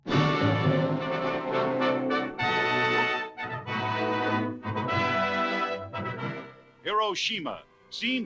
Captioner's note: soundbite of archived recording